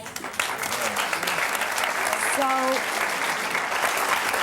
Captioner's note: audience applauds